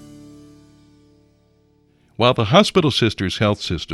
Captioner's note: voiceover